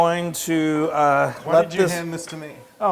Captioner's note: laugh